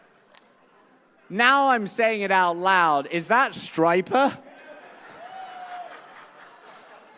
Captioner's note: laughter